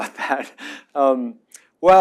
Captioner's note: laughs